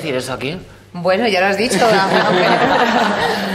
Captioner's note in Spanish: todos ríen